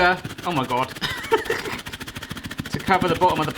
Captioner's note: laughs